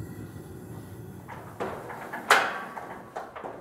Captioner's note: rumbling, metallic clanking